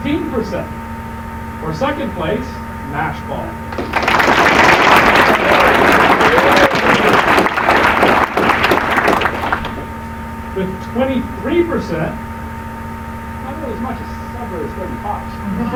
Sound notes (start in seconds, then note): 3.7 applause